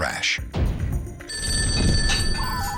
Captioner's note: phone ringing